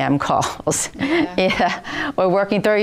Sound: laughter

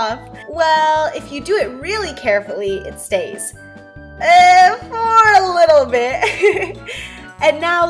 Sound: giggle

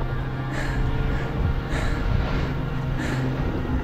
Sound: heavy breathing

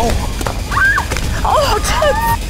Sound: contestant screams

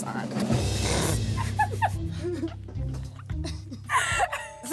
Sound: laughs

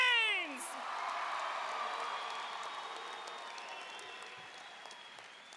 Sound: audience cheering and applauding

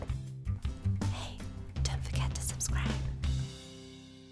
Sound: whispers

